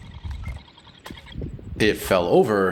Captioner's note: thud